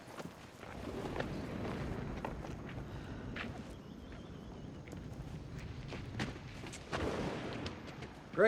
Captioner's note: footstep